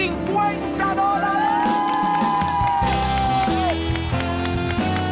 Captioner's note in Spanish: Ovación